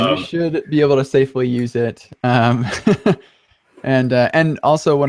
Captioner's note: laughs